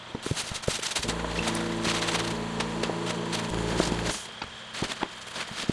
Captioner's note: machine clanking; spraying; motor whirring